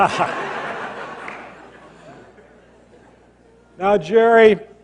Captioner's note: laughter